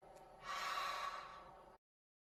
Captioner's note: sigh